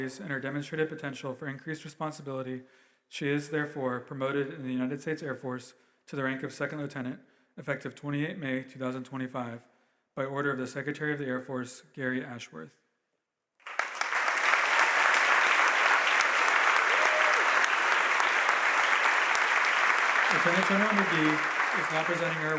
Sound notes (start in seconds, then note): 13.6 audience applauding